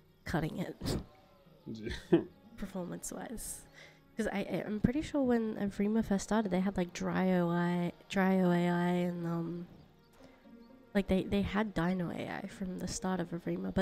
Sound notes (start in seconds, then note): 1.7 scoffs